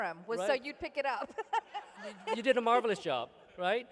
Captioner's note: laughter